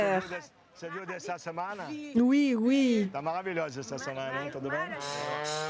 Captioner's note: foreign language